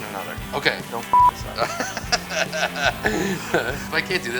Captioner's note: laughter